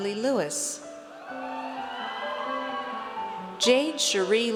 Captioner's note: audience cheers